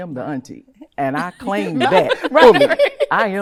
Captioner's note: laughing